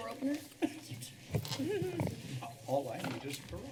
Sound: background converations; laughter

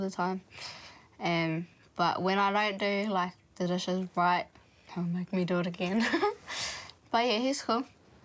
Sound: chuckles

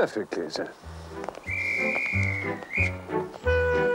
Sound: whistle blows

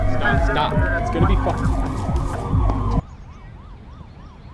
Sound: sirens

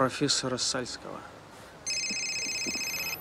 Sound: phone ringing

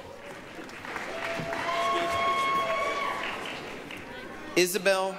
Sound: applause, cheering

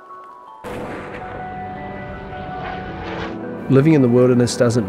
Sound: gun firing

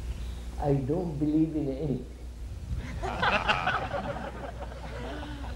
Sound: laughter

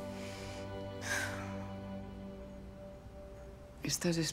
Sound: sighs

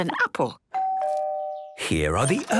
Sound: doorbell rings

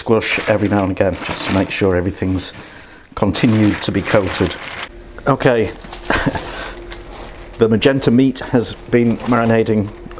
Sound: laughs

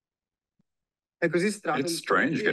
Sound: non-english speech

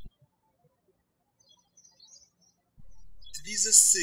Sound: birds chirping

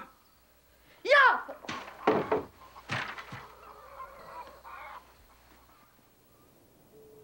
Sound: rake thudding

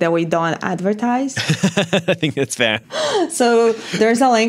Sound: laughs

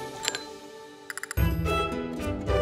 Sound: glass dings; light whimsical music

